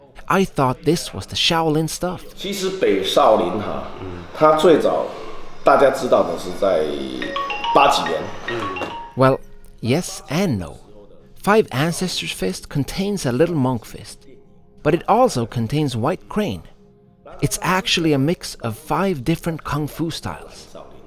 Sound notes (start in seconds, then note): 6.8 phone ringing